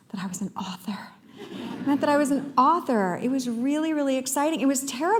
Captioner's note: laughter